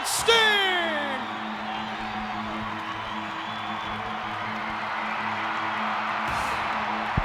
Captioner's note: audience cheers; upbeat music